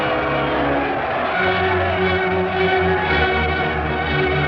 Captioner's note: cheers